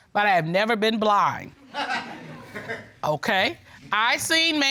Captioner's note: audience chuckling